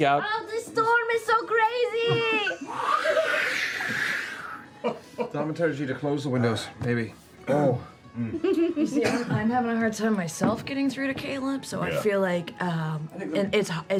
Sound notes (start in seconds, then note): 3.6 wind howling